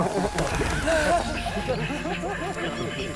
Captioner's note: woman laughs nervously; man laughs